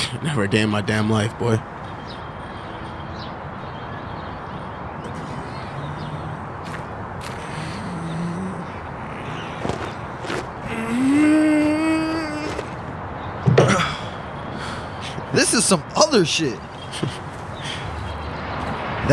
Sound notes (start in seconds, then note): 10.6 man groans; 16.7 Michael laughs